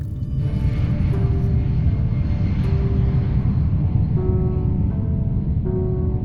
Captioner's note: gentle music; ship whirring